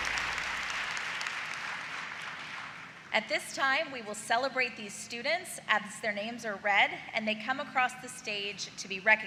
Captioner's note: applause